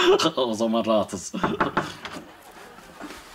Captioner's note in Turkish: Kapı tıklama sesi